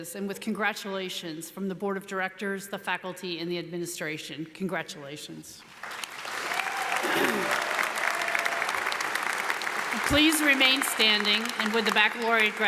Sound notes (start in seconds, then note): 5.7 audience applauds; 6.2 audience cheers